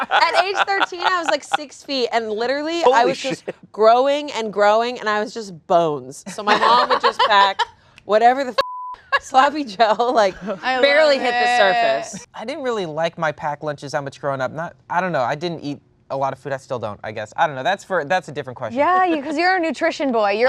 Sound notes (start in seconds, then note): 8.6 beep